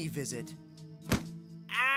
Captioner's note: thudding on Bed